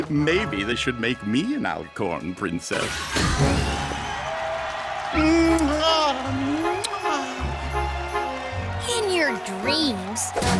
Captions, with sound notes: Maybe they should make me an Alicorn Princess. (cheering crowd) (kisses) In your dreams.